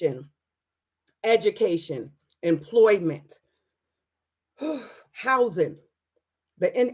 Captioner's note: sighs